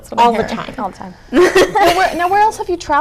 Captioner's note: chuckles